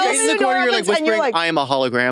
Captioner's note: participants chattering